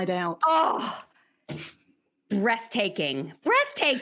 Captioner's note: exclaims